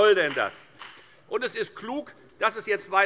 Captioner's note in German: Beifall bei der FDP